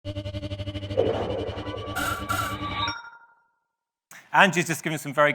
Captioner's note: futuristic technology sounds